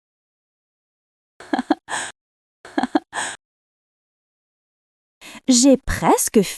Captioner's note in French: rire